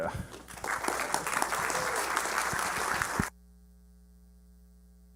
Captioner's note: applause